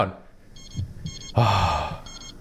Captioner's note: relieved sigh